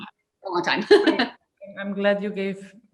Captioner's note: laughs